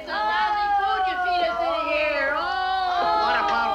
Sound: prisoners groan

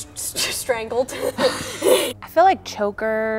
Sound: laughs

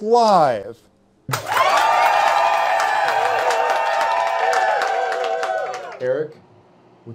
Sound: crowd cheering

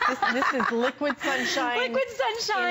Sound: laughter

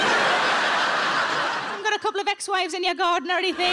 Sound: audience laughing

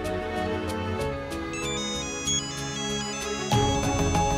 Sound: mobile phone ringing

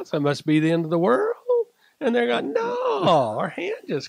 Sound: chuckles

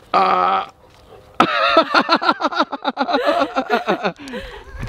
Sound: Rocky laughs; both laughing

